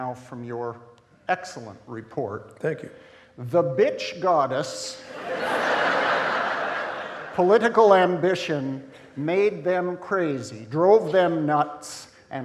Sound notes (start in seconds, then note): 5.0 audience laughing